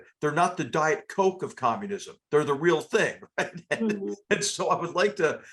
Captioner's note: laugh